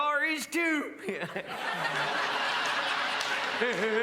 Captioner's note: crowd laughs